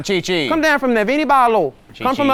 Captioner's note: in Haitian Creole